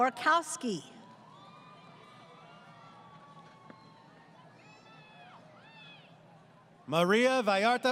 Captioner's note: crowd Cheering